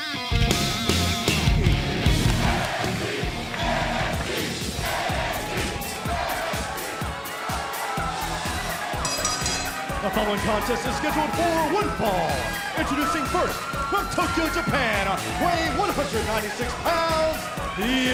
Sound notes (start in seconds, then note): 10.1 crowd cheering; 10.9 bell ringing